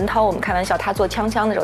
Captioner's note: three People Talking